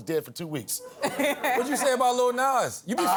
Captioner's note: laughs